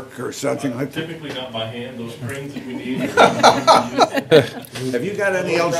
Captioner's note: laughter